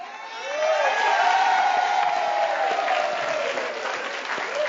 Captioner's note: audience applauding